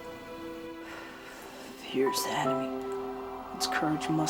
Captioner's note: exhales